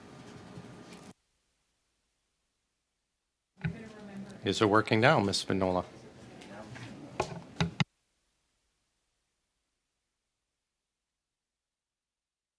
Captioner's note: speaking French